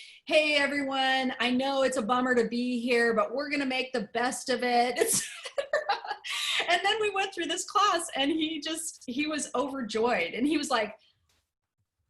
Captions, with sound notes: "Hey everyone, I know it's a bummer to be here, but we're going to make the best of it." [LAUGHTER] Then we went through this class and he just he was overjoyed and he was like,